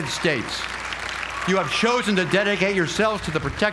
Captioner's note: applause